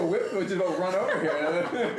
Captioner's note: laughter